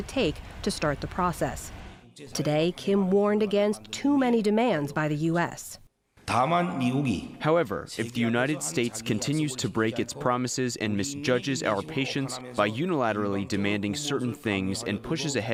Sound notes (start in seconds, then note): 6.2 through translator